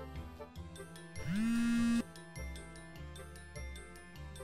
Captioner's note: phone vibrating